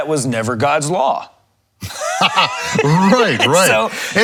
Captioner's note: laughs